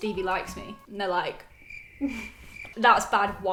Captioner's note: crickets chirping